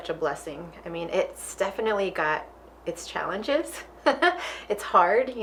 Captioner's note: laughing